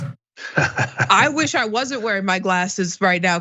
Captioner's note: laugh